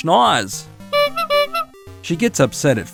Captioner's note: honk sound